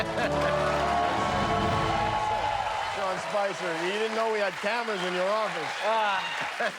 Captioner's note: cheers and applause